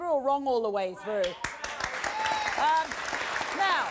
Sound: audience applause

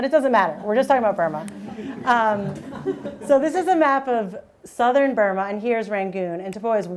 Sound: audience laughing

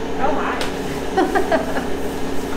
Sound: laughing

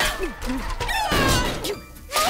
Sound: screaming

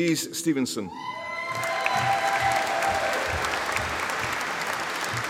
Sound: audience applauding

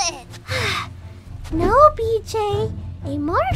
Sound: sigh

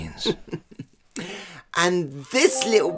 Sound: chuckle

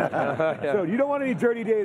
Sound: laughing

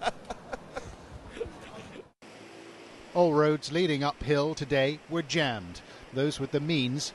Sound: laughter

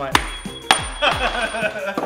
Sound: bolt clangs; laughs

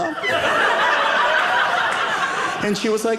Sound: audience laughing

